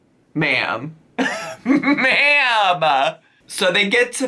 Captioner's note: laughs